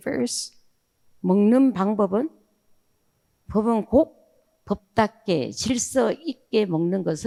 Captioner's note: speaking in foreign language